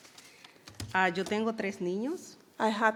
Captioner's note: speaking in foreign language